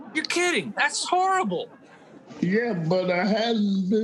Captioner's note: audience laughing